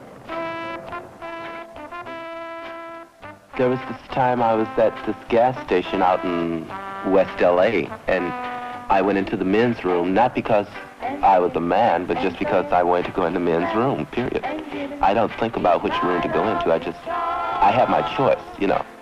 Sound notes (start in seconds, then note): 3.4 narrator over music